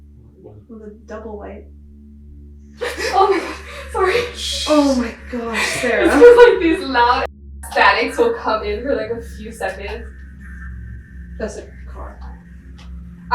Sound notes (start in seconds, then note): 7.5 beep